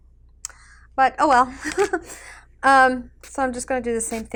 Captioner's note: chuckles